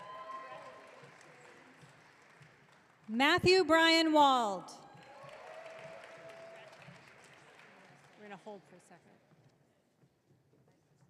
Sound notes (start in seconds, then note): 0.0 audience cheering; 4.8 audience cheering